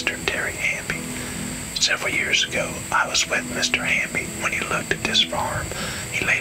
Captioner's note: whispering